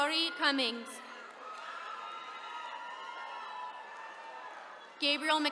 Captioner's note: attendees cheering